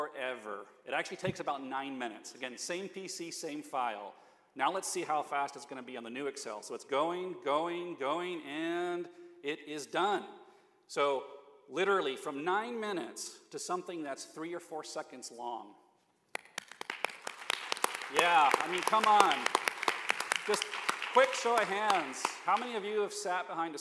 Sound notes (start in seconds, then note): 17.6 applause